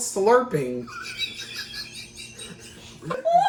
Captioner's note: another kettle laugh